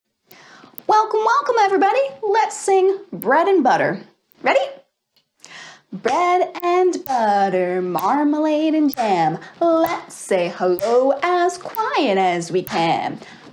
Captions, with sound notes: Welcome, welcome everybody! Let's sing "Bread and Butter." Ready? [Chanting] Bread and butter Marmalade and Jam Let’s say, “Hello” as quiet as we can